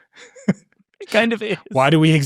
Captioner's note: laughing